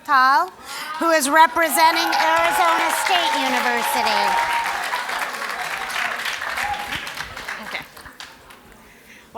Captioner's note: applause